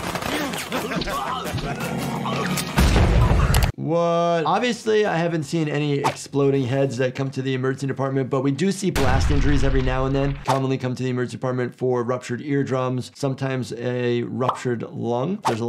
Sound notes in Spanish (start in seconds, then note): 0.2 personaje riendo; 2.7 explosión en auge